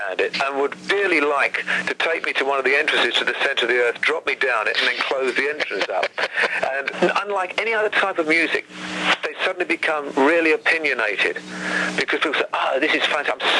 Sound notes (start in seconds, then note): 5.1 host laughs